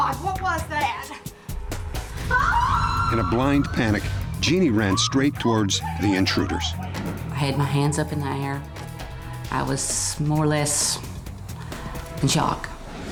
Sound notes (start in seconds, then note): 2.1 yelling